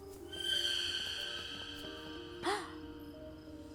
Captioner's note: crickets chirping